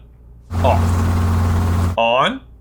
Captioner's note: air whooshing